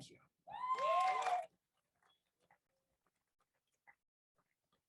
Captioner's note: crowd cheers